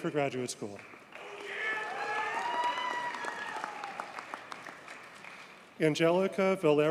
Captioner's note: audience cheers and applauds